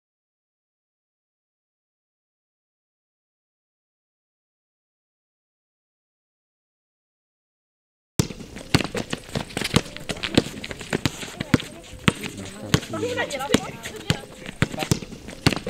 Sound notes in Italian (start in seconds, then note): 8.2 rumori palla da basket e voci